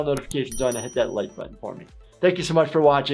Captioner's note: bell chimes